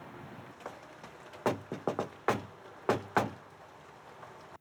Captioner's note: door knocks